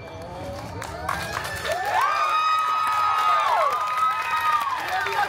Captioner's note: guests cheering and applauding